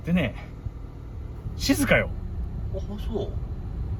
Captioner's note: engine noise